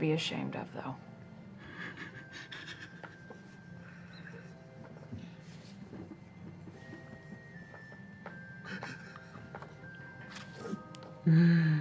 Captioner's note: laughs slightly hysterically